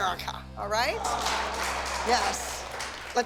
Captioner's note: applause